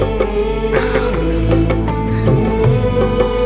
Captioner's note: giggles